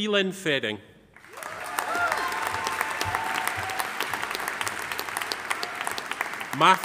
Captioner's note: audience applauding; audience cheering